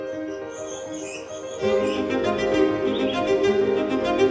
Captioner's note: peaceful upbeat music; birds chirping